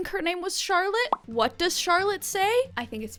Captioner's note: popping